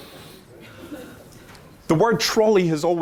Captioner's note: laughter